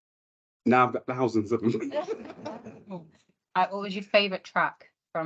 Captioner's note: audience and panel laughs